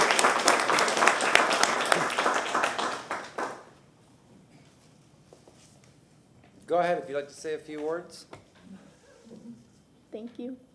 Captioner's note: applause